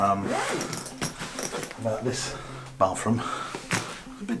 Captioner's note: zipper zipping